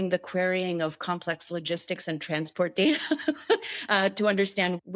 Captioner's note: chuckles